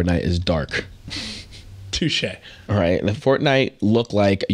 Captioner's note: laughing